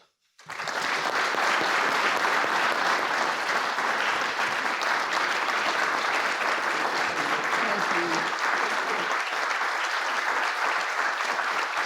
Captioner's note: applause